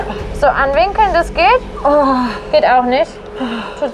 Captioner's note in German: Stöhnen